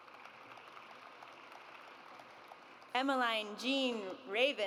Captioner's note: audience applauds